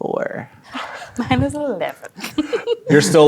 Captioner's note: giggles